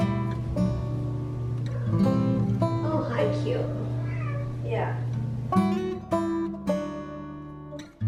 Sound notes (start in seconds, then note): 3.7 Harry meows; 5.0 instrumental Music